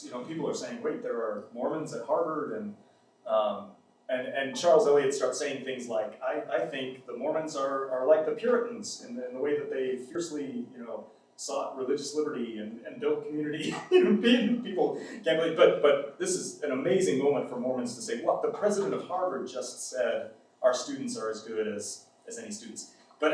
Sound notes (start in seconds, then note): 14.8 laughs